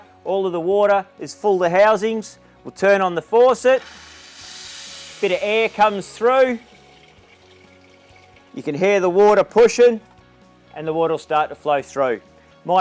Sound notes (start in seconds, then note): 3.7 air whooshing